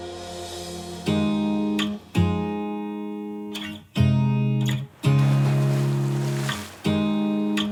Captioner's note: guitar strums gently; water splashes